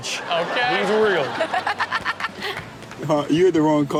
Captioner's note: audience laughs